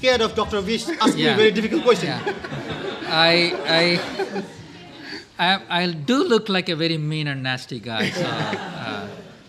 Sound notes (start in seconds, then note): 2.7 laughter